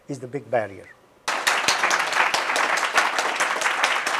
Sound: applause

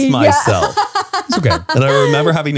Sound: laughs

